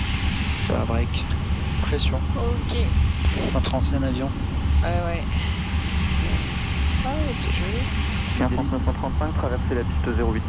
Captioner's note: MEA A330 is taking off